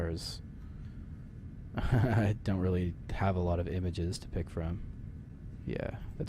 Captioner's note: chuckling